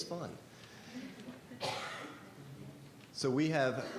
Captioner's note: board members chuckle